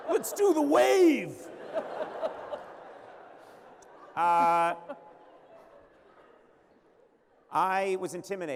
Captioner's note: laughter